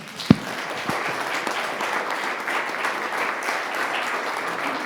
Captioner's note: audience applauding